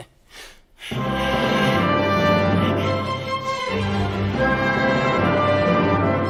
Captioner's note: pants loudly; cheerful orchestral music